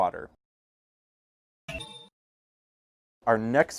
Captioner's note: ding